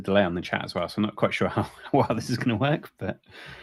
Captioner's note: chuckles